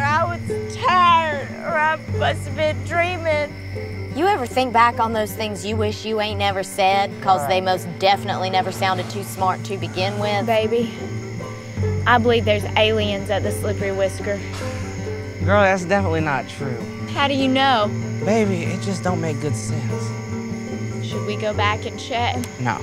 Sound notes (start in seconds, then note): 14.9 scoffing